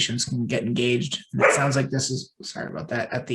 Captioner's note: dog barking